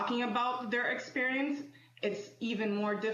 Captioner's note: speaking French